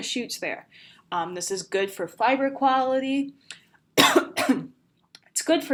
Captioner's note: coughs